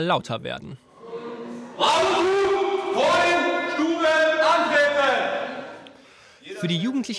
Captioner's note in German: Schreit